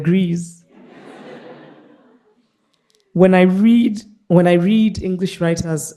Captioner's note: participants laughing